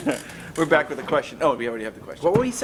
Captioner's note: both laugh